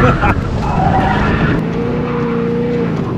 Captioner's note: laughs